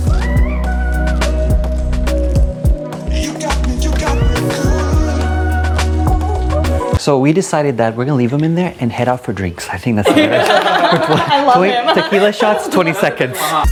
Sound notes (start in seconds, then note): 0.0 upbeat music; 10.0 laughing; 13.4 electronic music